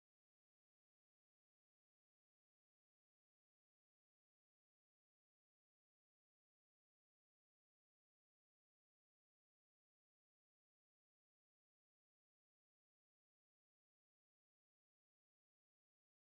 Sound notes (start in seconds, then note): none